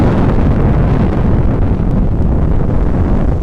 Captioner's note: explosion